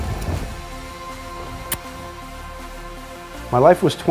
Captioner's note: kiss